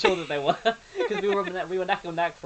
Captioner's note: laughs